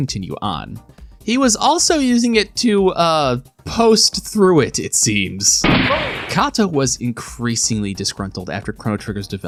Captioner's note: gunshot